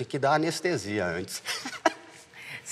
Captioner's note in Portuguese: risos